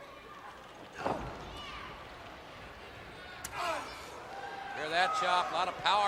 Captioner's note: crowd chatter